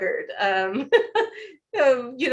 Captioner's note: laughs